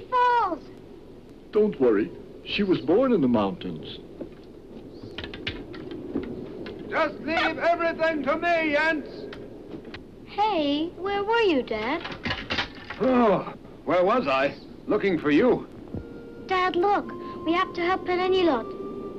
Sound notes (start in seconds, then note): 4.7 skis clacking; 11.5 skis clattering; 12.9 groans; 16.0 mellow harmonica music